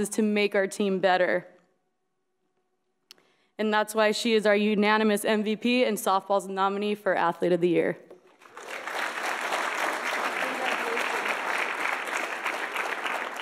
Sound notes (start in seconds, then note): 8.2 audience applauds